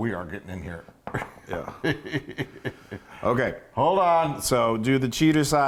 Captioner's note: laugh